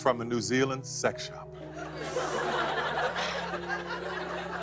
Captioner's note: laughter